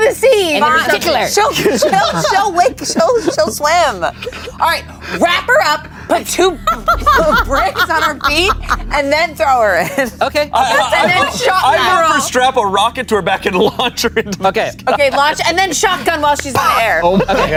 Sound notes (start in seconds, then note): 6.4 everyone laughs